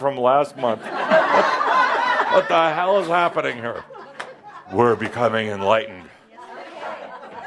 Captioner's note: more laughter